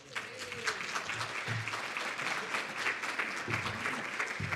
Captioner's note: audience applauding